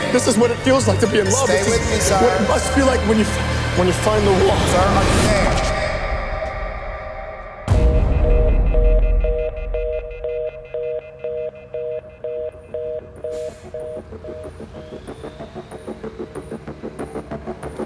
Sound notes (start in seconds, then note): 7.8 phone beeping and buzzing; 14.9 dynamic music